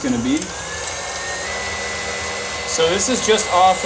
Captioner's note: machine whirring faster